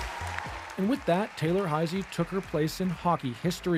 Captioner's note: applause